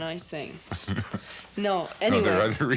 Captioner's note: chuckles